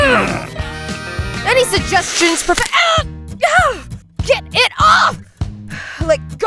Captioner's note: Gareth and Elizabeth grunting; painful yell